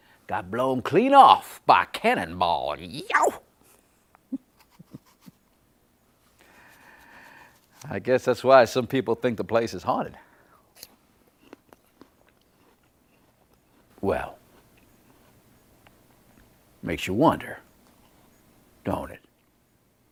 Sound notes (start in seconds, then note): 4.2 chuckling; 11.3 crunches